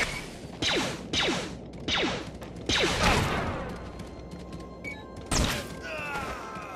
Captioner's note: blaster fire